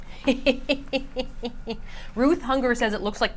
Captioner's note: snickers